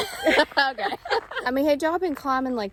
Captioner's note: laughs